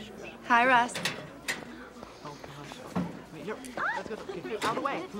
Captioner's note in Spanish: estudiantes murmurando